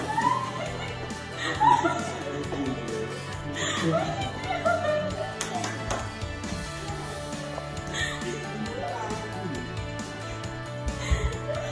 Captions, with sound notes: - Hi! (laughing) What are you doing? (clapping) (group crying)